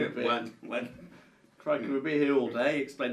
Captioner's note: laughs